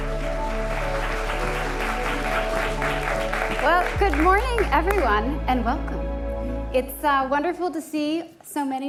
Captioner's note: applause